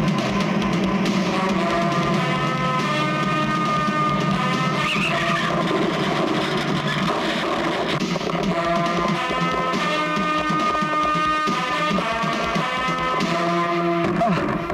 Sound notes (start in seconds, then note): 4.7 tires squealing and car rammed